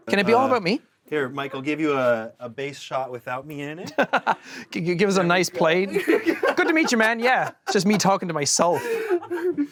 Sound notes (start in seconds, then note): 3.9 laughs